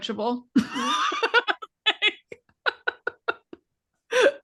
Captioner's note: both laughing